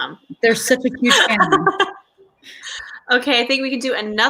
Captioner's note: laughs